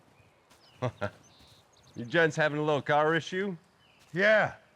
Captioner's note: chuckles